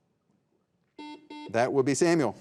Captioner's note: buzzer beeping